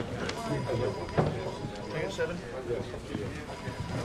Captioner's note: people chattering; phones ringing